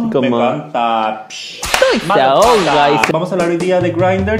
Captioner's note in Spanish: sonido de látigo